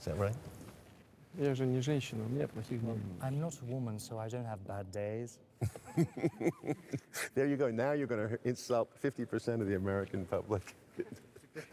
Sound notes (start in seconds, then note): 5.6 laughs